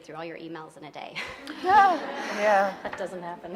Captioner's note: audience laughing